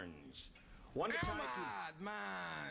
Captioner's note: spanish accent